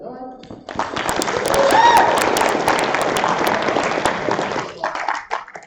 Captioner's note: applause